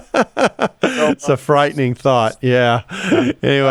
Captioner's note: laughs